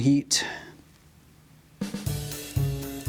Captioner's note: sighs